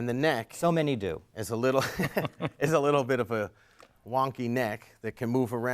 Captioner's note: laugh